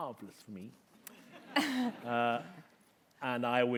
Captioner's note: laughter